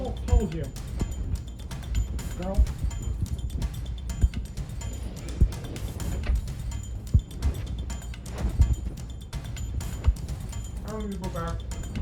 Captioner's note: altered/distorted